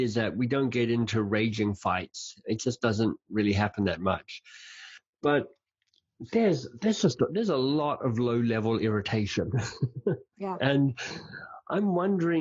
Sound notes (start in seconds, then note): 9.4 laughing